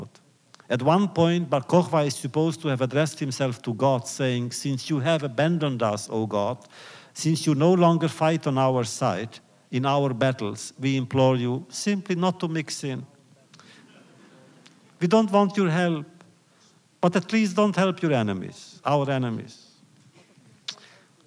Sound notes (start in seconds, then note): 13.8 laughter